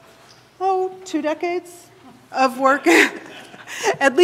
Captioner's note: laughing